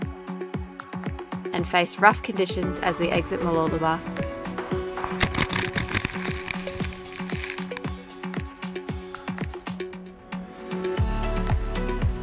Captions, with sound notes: And face rough conditions as we exit Mooloolaba. (waves crashing) (soothing music)